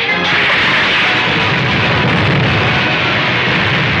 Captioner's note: explosion booming